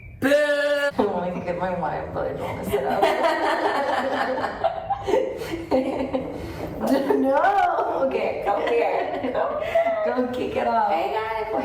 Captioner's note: hoots